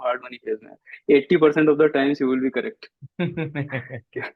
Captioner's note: laughs